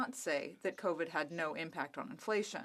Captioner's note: speaking French